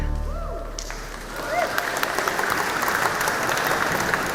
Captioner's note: audience applauding